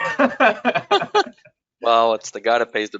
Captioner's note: laughs